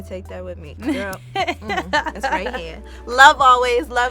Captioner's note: laughs